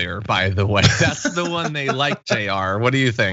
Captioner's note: laugh